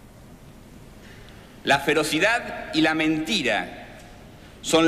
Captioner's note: Ocampo speaking Spanish